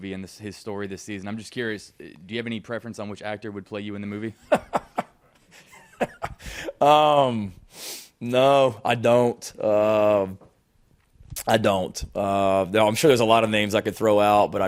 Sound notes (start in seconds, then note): 5.5 Shane laughing